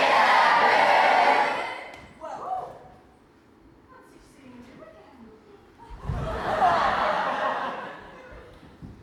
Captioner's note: audience laughs